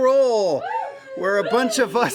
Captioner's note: cheering